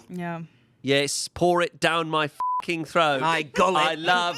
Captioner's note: beep